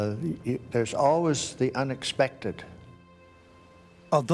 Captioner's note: voiceover